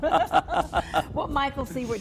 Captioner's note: laughing